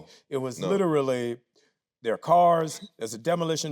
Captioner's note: none